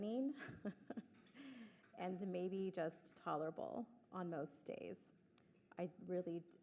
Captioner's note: chuckles